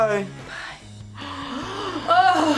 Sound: React gasps; whispers

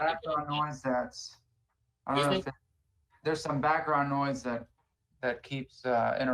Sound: ~audio distortion~

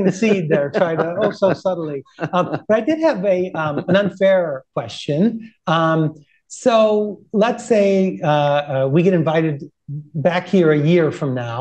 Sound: laughter

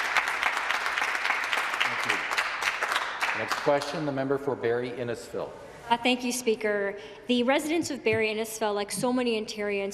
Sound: some Applause

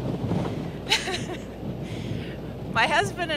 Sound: laughing

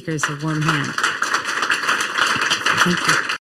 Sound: crowd applauding

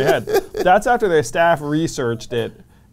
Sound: laughs

